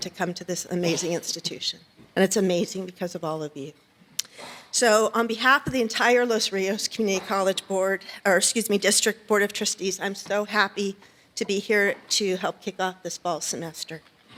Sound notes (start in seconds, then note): none